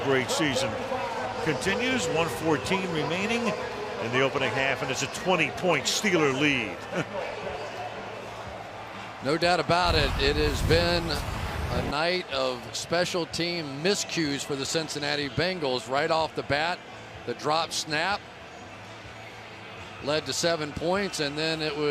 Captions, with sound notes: Suisham's great season continues. 1:14 remaining in the opening half. And it's a 20-point Steeler lead. [chuckles] No doubt about it. It has been a night of special team miscues for the Cincinnati Bengals. Right off the bat, the dropped snap led to 7 points.